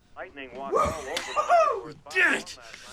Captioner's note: cheers